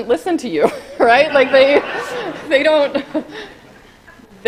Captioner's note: laughing